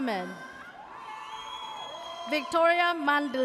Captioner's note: audience cheers